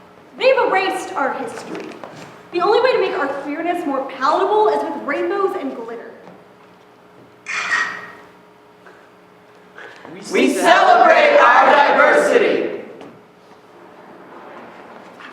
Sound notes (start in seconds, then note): 7.4 camera shutter sounds